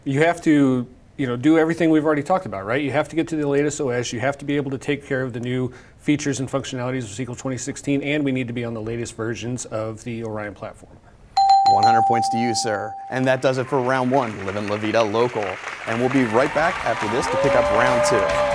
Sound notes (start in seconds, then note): 11.4 dings